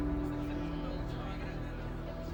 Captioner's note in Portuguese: pessoas conversando